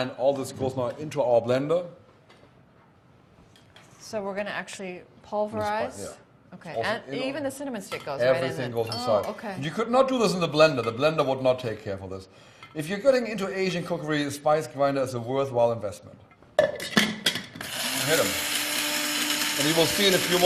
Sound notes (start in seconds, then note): 17.6 spice grinder whirrs